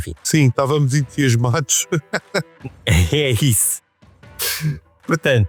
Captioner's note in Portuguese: risada